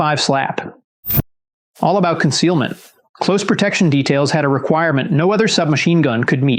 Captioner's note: whoosh